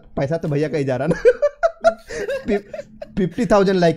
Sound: chuckles

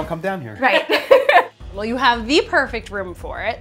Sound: laughter

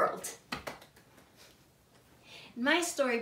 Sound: hands clapping

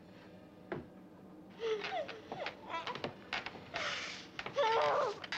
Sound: muffled cries

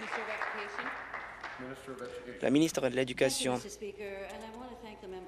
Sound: applause

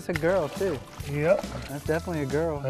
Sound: splashing

